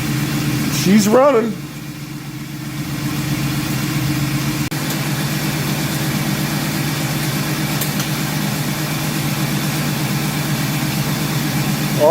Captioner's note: engine idling